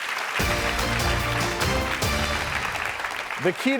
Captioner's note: audience applauding